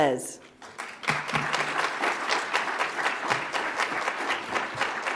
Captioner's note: audience applauds